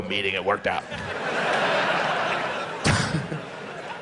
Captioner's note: laughs